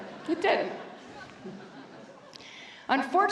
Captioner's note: laughter